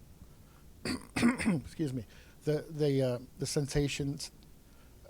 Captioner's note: clears throat